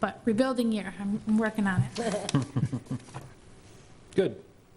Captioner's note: laughs